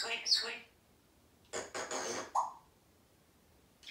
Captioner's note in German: Pfffff sound